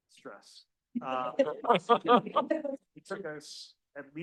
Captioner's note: audience laughing